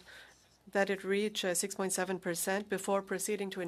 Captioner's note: speaking French